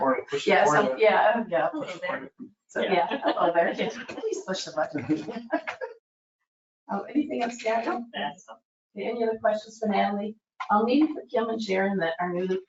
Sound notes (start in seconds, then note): 4.9 people chuckle